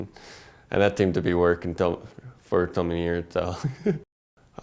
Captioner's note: laugh